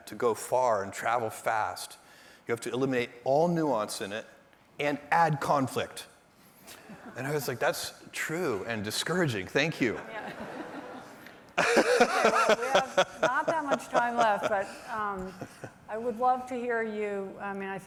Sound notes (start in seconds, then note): 9.9 laughter